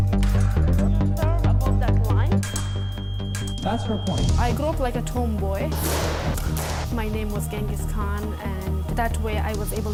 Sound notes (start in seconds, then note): 2.5 scoreboard beeping